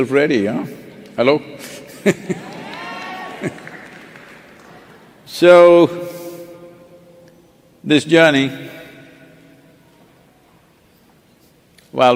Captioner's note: laughter